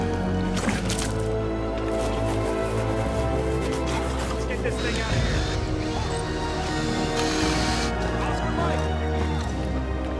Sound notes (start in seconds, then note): 1.1 Walter sputters; 4.6 drill whirring